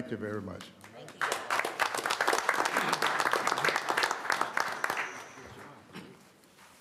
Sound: applause

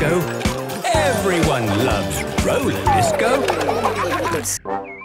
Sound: laughter

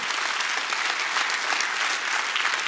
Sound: applause

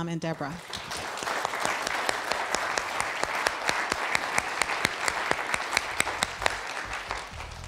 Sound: audience applause

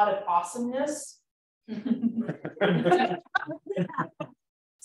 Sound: laughter

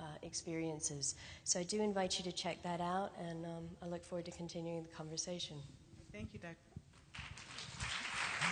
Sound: applause

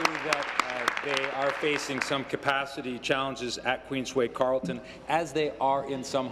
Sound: applause

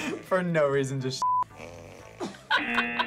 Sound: fart squelches; laughs; buzzer rings

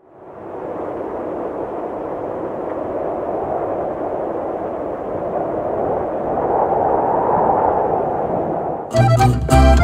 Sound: viento ululando

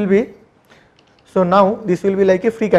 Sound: etching

